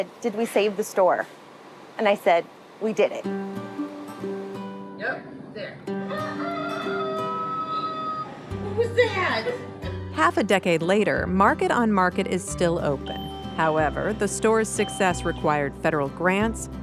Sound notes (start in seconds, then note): 6.0 rooster crowing